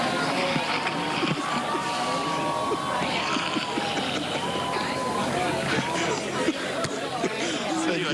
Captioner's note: laughter; laughter